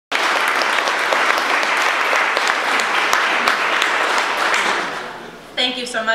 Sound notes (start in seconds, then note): 0.1 audience applause